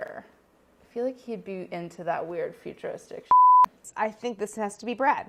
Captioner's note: beeping